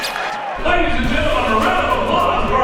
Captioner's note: voiceover